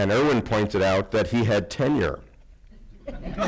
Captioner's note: laughter